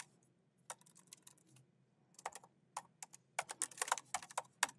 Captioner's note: keyboard clacking